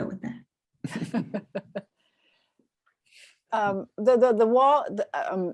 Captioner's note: woman laughing